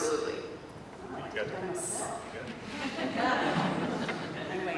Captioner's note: laughter